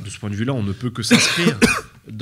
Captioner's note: cough cough